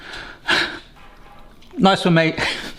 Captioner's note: exhales